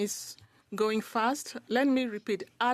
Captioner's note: speaking French